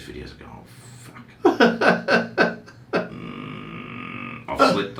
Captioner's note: laughter